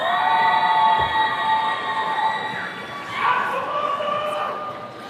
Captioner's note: attendees cheering